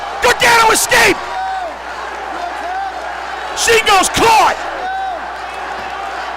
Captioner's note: applause